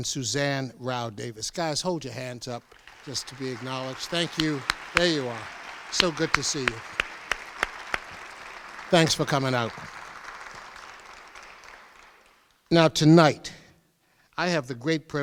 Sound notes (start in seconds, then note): 6.8 crowd applauds